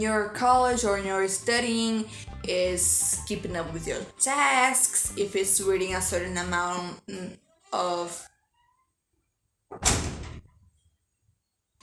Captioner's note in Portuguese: portas batendo